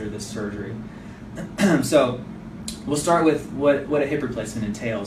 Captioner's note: clears throat